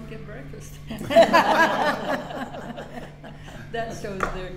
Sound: all laughing

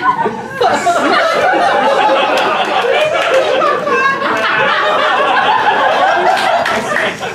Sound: laughter

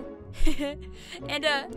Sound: laughs

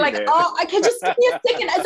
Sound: laughing

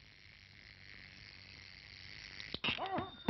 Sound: buzzing; telephone Rings

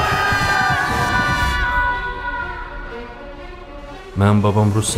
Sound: screams

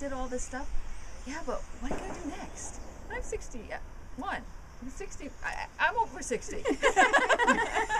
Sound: laughter

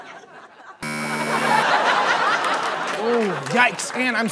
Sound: buzzer

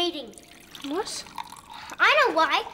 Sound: liquid pouring into cup

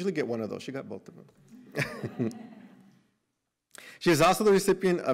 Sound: laughter

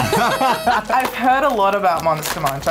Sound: both laughing

